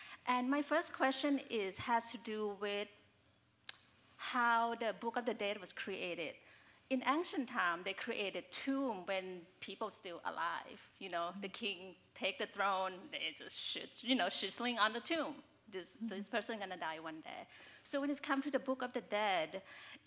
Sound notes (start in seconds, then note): none